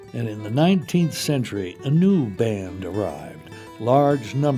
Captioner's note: voiceover